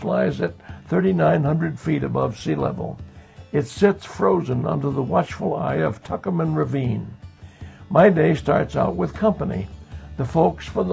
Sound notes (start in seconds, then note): none